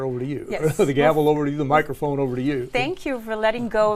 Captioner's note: laugh